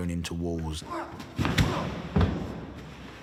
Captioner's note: grunts